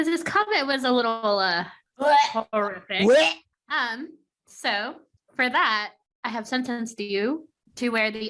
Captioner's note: gag noises